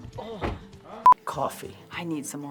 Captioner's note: upbeat guitar music; loud beeping